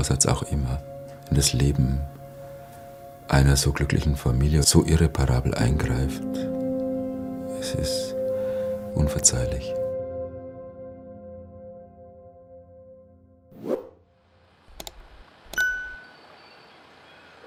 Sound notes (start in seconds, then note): 15.6 quiet chirping of birds